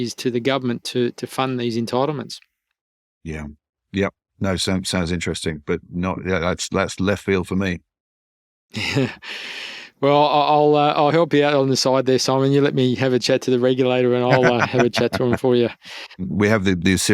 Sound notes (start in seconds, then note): 8.7 chuckles